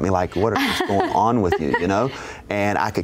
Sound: laughs

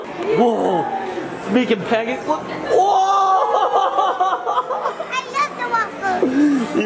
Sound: laughs

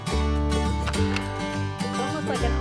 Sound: acoustic guitar music continues; staple gun snapping

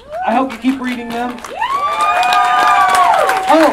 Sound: audience Cheering and Clapping

